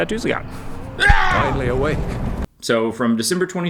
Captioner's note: ahh - scream sound